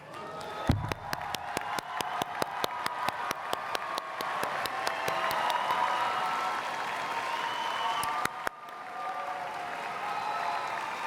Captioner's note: cheers and Applause